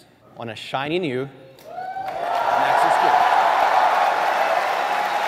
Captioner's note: audience cheering